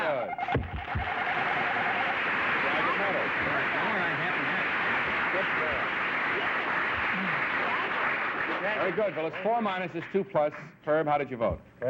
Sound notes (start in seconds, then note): 1.6 applause; 4.4 indistinct chatter